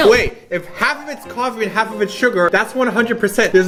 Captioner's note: scratching noises